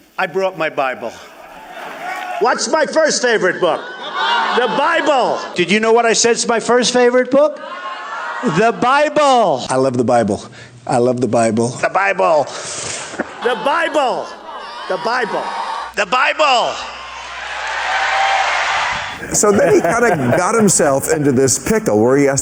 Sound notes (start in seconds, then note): 12.5 inhales Sharply; 16.9 audience Cheers